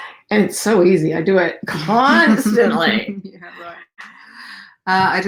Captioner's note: giggling